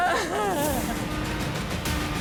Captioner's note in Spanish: Sollozos